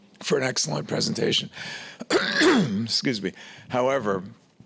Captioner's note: clears throat